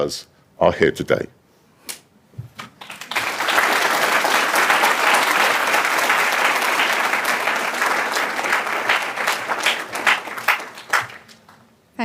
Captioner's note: applause